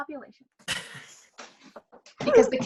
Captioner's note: LEO laughs